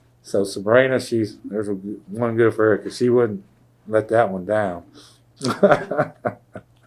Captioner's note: laughs